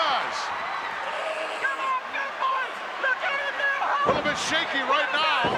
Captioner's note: crowd shouting